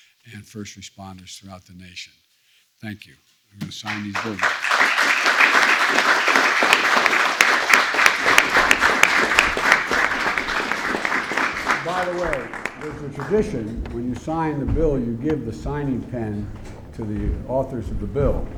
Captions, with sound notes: and first responders throughout the nation. Thank you. I'm going to sign these bills. (Applause.) By the way, it is a tradition when you sign the bill, you give the signing pen to the authors of the bill,